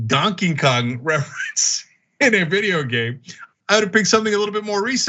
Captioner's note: laugh